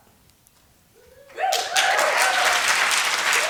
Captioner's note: applause